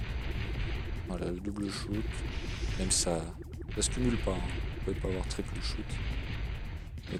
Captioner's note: shooting